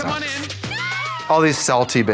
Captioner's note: people screaming